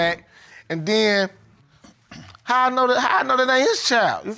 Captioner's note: clears throat